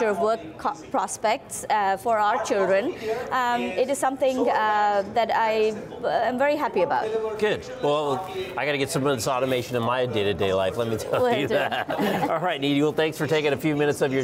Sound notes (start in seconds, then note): 11.0 laughs